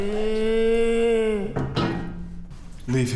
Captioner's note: moaning